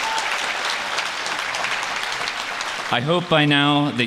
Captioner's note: applause